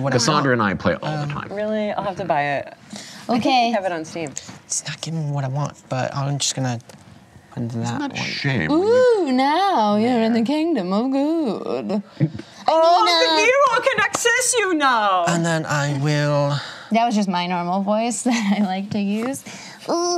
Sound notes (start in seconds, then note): 12.8 imitates German accent; 19.9 imitates child's voice